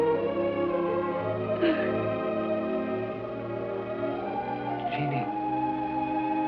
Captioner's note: weeping